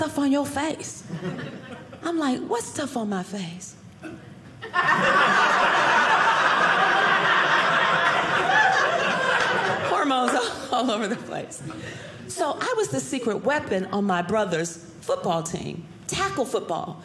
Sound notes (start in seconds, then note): 4.6 audience laughing